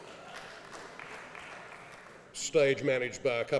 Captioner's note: applause